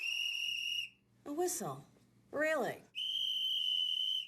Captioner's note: whistle blows